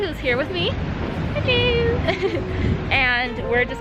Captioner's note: laughs